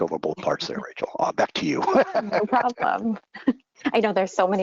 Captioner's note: laughs